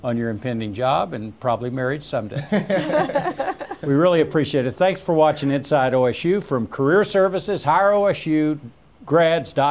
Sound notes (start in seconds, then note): 2.4 laughs